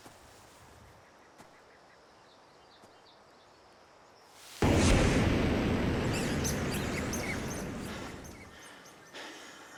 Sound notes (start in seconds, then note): 4.6 muffled boom; 5.4 mouse squeaks; 8.4 chuckles